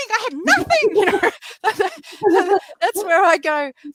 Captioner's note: laughing